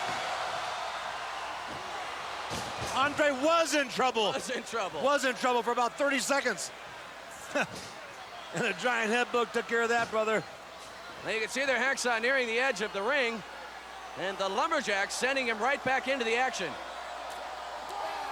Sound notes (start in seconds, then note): 3.8 crowd cheers; 10.4 crowd cheers